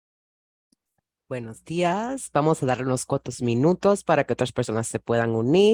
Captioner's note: speaks Spanish